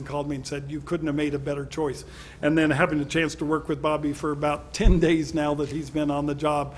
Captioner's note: none